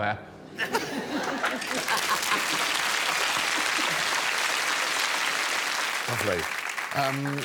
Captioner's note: audience laughing; audience clapping